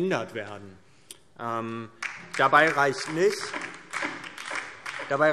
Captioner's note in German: Beifall DIE LINKE